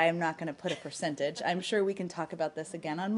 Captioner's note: laughter